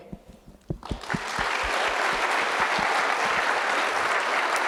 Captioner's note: audience applauding